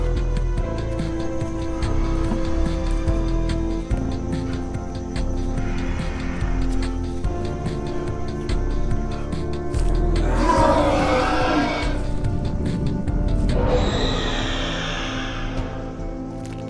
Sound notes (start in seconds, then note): 4.6 heavy breathing; 10.2 loud screeches and roars